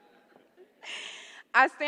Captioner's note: laughter